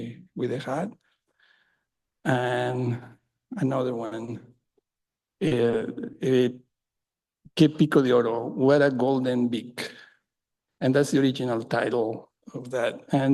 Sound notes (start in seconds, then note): 7.6 in English